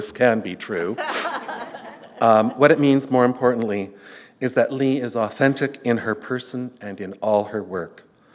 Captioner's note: laughter